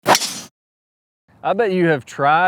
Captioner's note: golf club thwacks